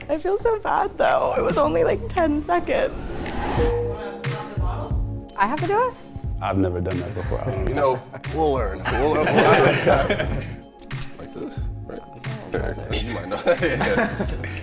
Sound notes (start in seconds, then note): 3.0 light music; 11.0 men laughing